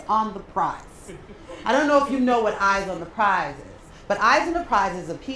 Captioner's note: laugh